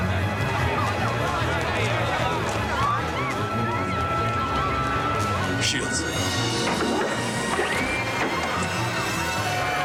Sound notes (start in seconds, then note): 0.5 crowd chattering; 5.1 dramatic music playing